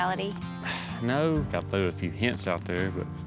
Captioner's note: sighs